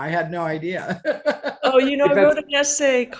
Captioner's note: laughing